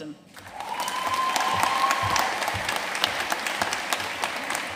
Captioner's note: audience cheering and applauding